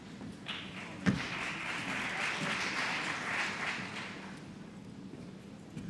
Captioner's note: applause